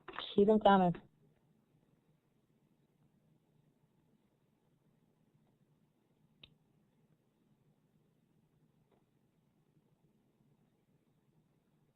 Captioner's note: silence